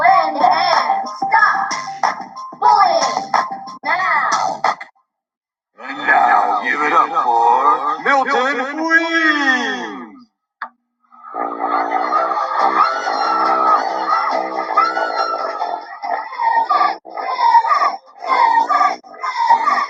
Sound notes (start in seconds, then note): 11.2 crowd cheering; 18.2 crowd